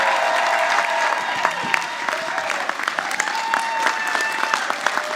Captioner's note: audience applauding